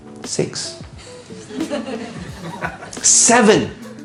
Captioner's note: laughing